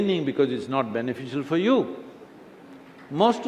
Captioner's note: applause